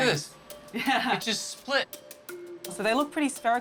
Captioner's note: chuckles